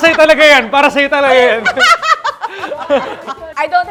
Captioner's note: laughs